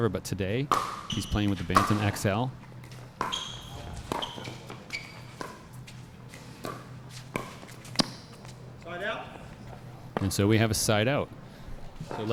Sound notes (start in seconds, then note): 2.5 ball being hit; 2.5 shoes squeaking